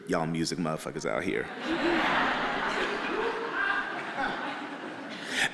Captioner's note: audience laughing